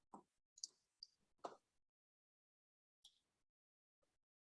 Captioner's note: mouse clicking